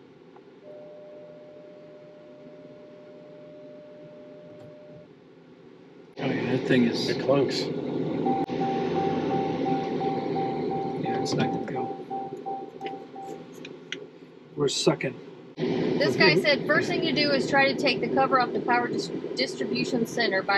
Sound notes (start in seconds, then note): 0.6 long beep; 8.2 car beeping continues